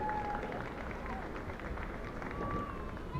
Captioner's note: applause